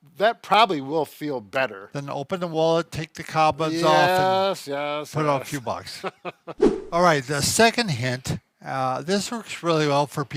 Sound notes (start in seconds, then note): 5.8 laughs; 6.5 whooshing sound